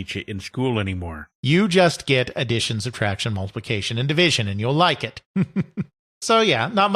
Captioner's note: chuckles